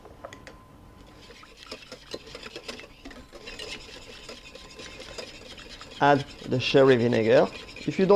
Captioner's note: whisking sounds